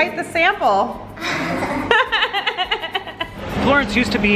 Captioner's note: both laughing